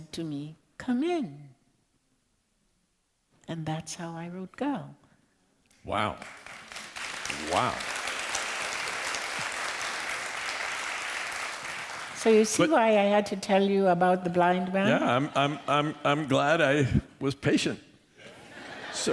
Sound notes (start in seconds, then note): 6.0 applause